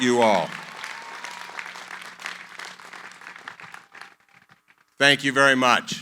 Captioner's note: applause